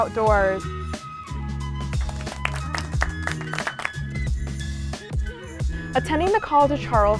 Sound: lively music; clapping

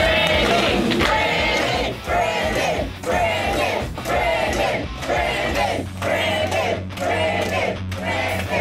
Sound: crowd

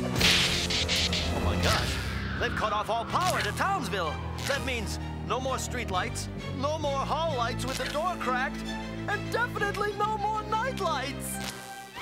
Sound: increasingly panicked

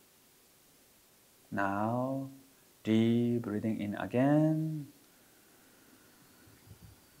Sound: exhales

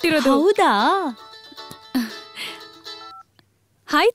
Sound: phone rings

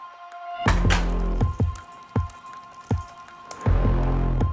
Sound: typing

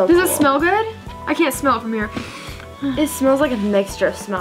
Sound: sniffs

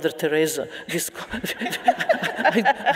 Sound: audience laughing

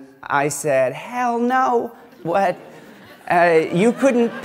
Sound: laughter

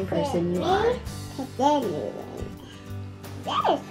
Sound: babbles

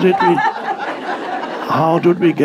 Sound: audience laughing

